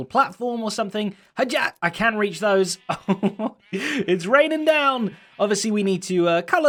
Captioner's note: laugh